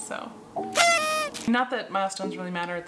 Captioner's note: noisemaker sounding